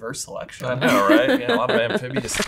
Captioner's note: laughing